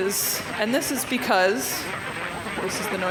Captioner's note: garbled static and noises